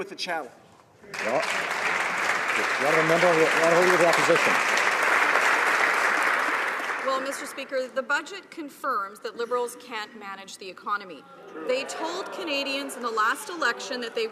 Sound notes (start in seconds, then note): 7.1 applause